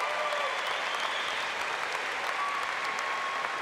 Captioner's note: applause